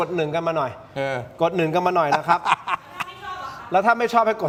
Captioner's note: laughs